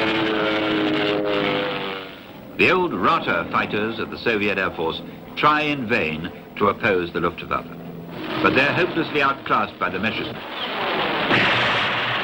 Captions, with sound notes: (plane engine humming) The old Rata fighters of the Soviet Air Force try in vain to oppose the Luftwaffes. But they're hopelessly outclassed by the Messerschmitts.